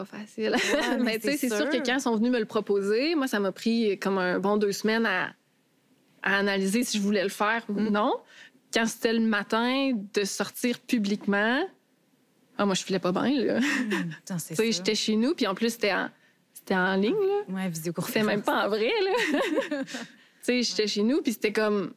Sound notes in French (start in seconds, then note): 0.6 rire; 13.6 rire; 18.2 rires